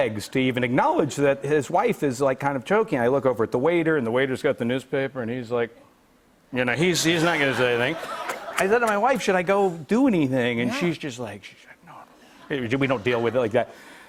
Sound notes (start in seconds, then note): 8.4 laughter